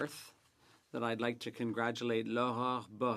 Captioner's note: speaking French